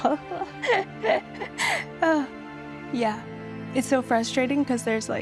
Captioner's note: she laughs